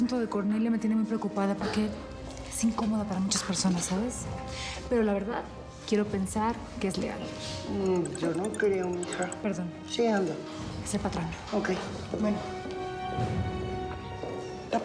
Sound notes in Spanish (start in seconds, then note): 7.9 suena el celular